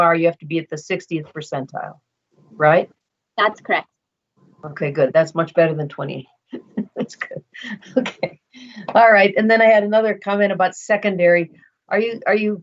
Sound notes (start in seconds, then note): 6.6 laughs